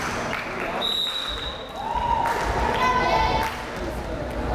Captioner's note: whistle blares